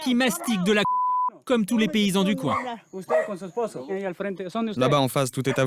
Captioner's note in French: bip